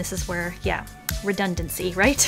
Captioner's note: mouth pop